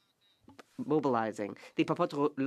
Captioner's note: speaking French